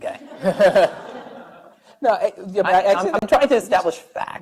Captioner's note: laughing